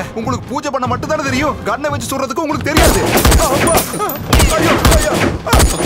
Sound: gunshot

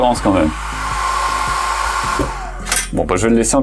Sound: fan noise

